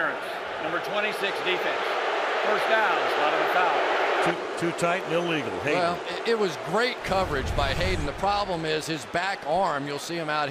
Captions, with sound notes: Pass interference, number 26, defense. [booing] First down, spot of the foul. Too tight and illegal. Hey-- Well, it was great coverage by Hayden. The problem is his back arm.